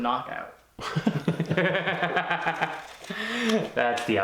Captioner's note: laughing